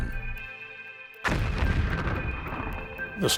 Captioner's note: rumbling explosion